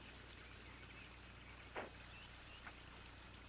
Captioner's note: birds chirping